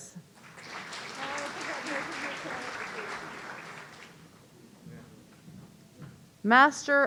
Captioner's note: audience applauding; voice muffling